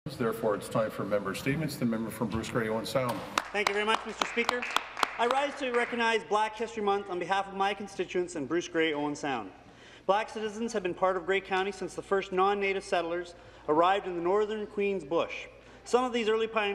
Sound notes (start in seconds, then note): 1.0 some Applause